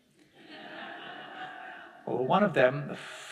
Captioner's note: audience laughing